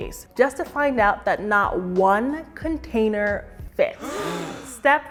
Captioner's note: audience gasps